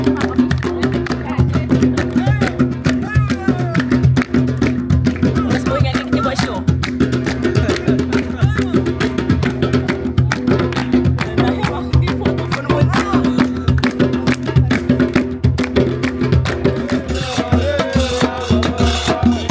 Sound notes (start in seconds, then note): 7.8 drums beating; 9.2 claps